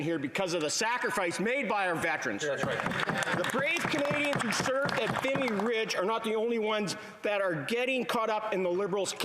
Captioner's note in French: voix de l'interprète